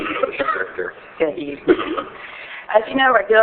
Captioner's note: coughing